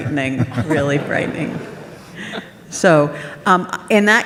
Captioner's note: audience laughs